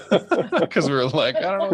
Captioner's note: everyone laughs